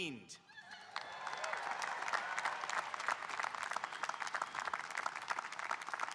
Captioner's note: audience cheering and applauding